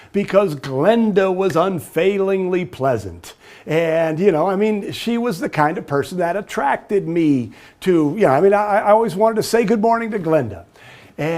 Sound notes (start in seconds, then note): none